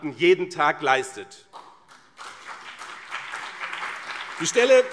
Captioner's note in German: Beifall BÜNDNIS 90/DIE GRÜNEN und CDU